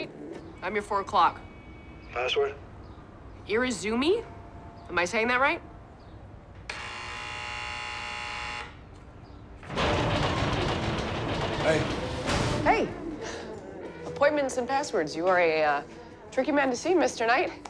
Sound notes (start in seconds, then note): 6.7 buzzer